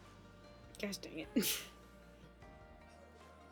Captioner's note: laughs